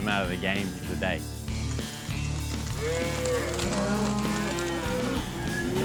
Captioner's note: hoof beats, mooing